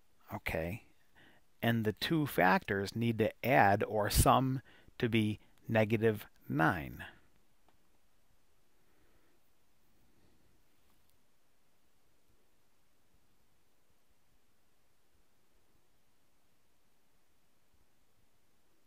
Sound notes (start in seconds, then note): 6.8 pause in speaking